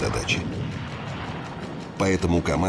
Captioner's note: sounds of explosions